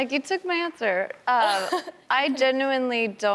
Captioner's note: laughs